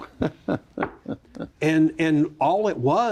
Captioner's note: chuckles